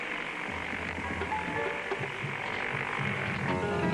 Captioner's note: airplane engines whirring